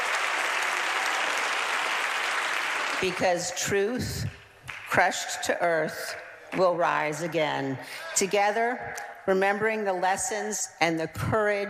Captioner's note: applause